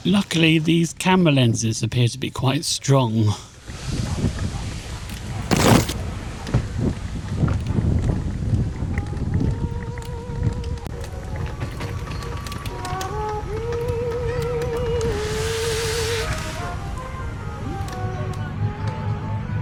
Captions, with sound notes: Luckily these camera lenses appear to be quite strong. [aircraft engine]